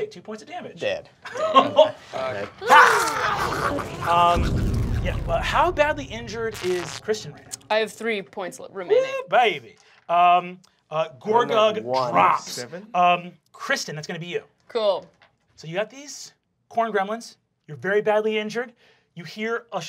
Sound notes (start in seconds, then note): 2.5 snarling